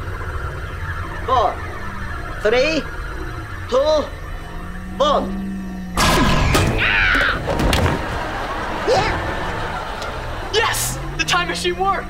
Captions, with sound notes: Four... three... two... one. [screaming] Yeah. Yes. The time machine works.